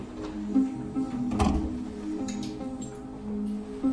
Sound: door closing; suspense music

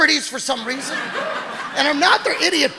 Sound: audience laughing

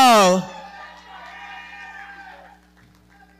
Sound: audience cheering and clapping

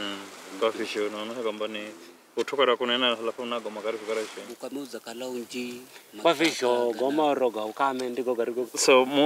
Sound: men speaking in Giriama

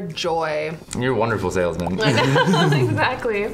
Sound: both laugh

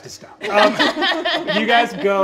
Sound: all laughing

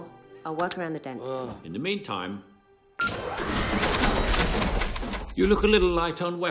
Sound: whirring and clanking

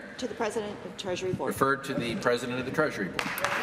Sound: applause

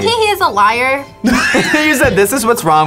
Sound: both laugh

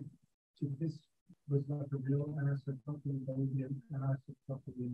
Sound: speaking faintly

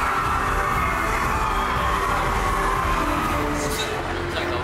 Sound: loud cheer

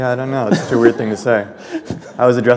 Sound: chuckle

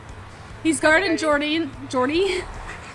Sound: laughs

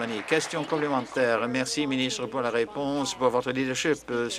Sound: applause

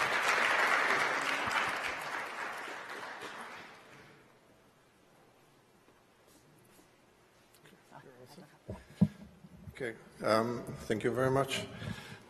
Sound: applause

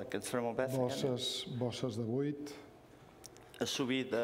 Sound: speaking catalan

